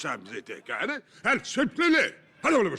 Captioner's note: speaking gibberish